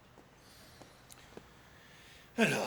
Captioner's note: sighs